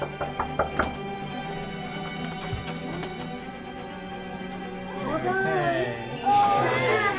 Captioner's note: knock on door